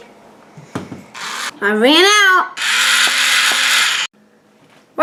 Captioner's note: electric Spritz Noise